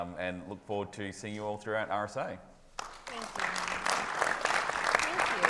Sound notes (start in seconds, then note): 2.8 audience applauding